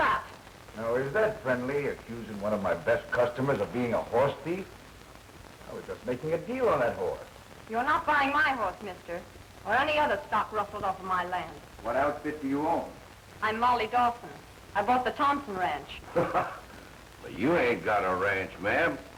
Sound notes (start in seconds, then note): 16.1 chuckle